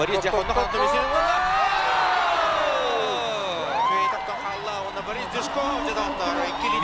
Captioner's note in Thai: ปรบมือ